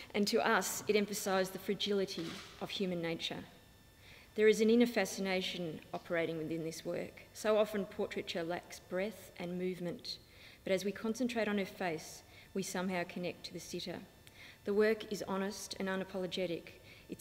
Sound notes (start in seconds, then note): none